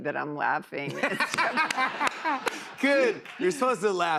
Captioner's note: laughter